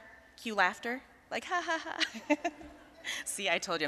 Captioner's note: audience chuckling